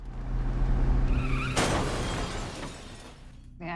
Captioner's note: screeching